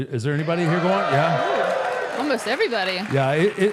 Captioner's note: audience cheering